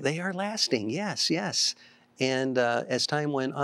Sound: none

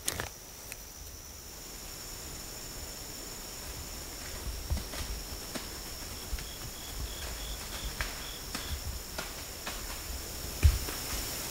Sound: deer footsteps heard

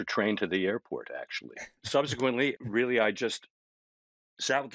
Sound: chuckling

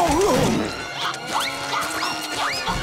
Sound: groaning

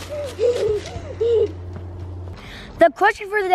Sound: laughing

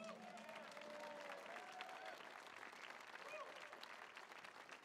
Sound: audience cheering

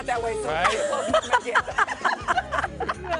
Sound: laughing

